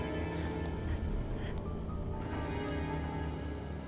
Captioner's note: Gage panting